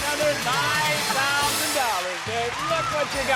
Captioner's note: applause